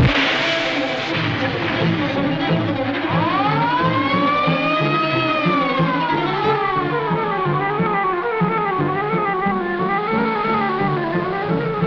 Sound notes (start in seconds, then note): 3.7 siren wailing